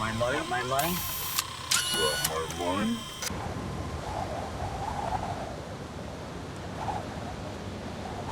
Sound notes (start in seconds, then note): 4.5 wind howling